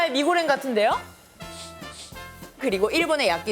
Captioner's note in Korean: 킁킁22